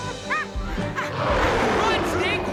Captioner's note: Stink whimpers; Scarface roars